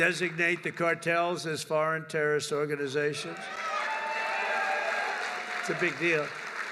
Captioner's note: applause